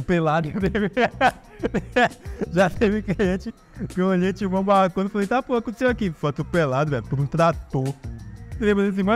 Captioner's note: laughter